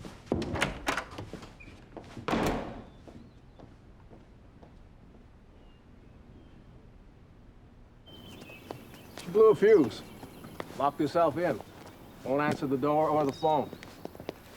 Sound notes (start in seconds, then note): 2.2 door slams